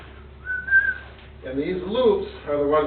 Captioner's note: whistling